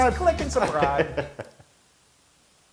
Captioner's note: laugh